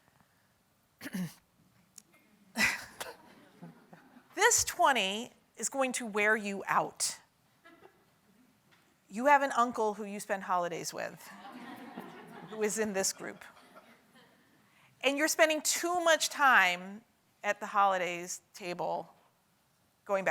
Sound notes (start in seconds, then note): 2.6 chuckles